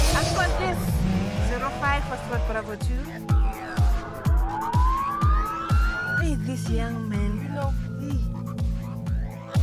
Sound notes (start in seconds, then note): 3.1 police sirens